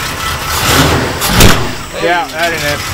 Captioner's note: engine revs